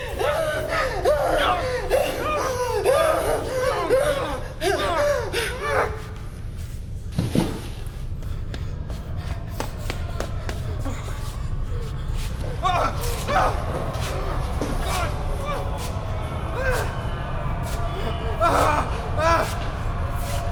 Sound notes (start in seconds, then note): 0.1 woman gasping; 4.3 Keith whimpering; 17.4 groaning mummies